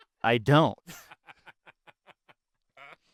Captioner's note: laughing